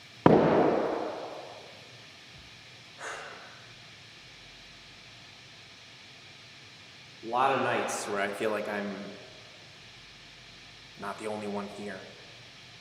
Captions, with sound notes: (bottle thuds) (Jacob sighs) A lot of nights where I feel like I'm not the only one here.